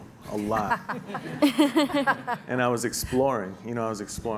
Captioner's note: laughing